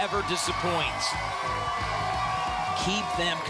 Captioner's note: applause and cheering